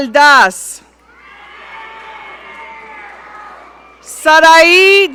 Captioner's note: audience cheering